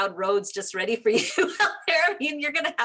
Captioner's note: laughing